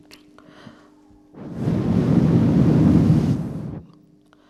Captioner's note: shri mataji blows into the microphone